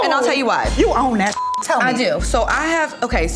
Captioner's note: beep